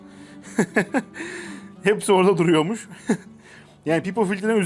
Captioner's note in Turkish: kahkaha